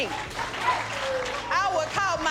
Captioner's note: clapping